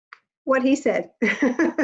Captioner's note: laughs